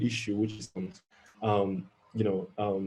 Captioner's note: audio distorting